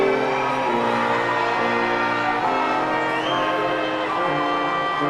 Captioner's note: audience clamoring